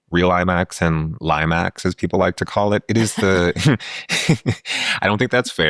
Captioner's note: laughing